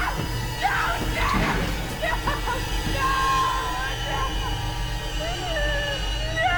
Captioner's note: wails